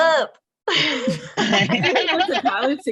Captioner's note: laughter